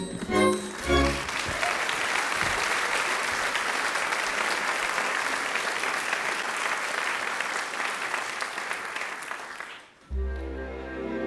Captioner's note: applause